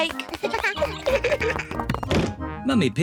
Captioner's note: both giggle